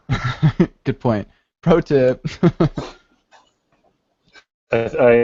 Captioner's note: laughs